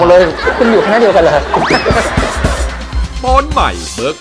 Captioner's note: laughing